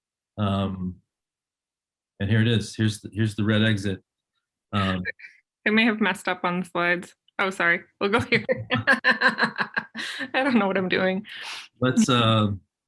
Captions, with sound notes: and here it is, here's the Red Exit. - It may have messed up on the slides, oh sorry, we'll go (laughs). I dunno what I'm doing.